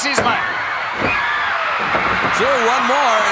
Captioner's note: audience cheering